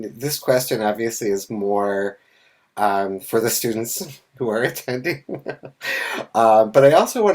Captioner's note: laughs